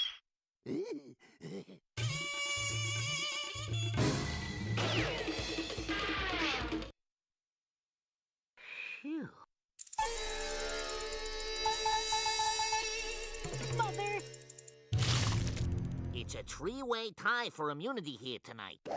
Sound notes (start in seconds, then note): 0.7 chuckling